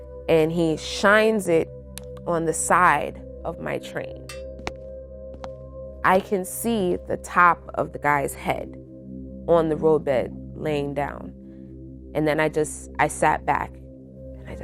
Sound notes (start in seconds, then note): 4.5 gentle footsteps; 4.6 somber music